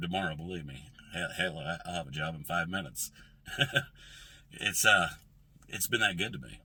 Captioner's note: laughs